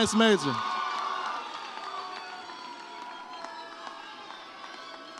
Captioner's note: audience cheers